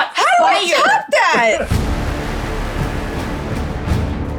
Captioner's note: participant chuckling